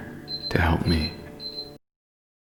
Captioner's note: beeping